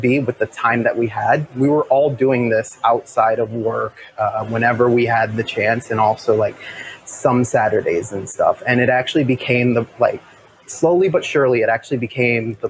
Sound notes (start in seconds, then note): none